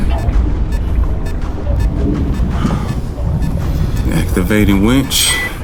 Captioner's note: beeping continues